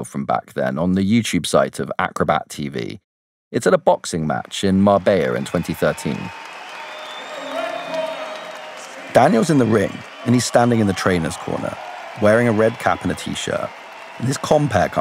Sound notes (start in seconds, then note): 9.0 backround sound of a boxing match